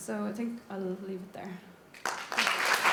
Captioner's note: applause